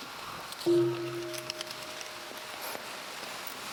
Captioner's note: bell ringing